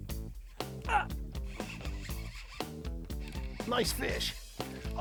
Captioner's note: reel whirring